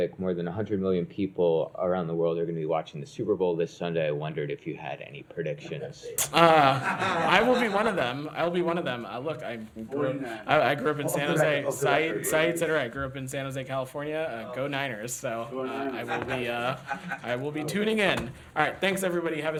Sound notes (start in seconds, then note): 6.2 laughter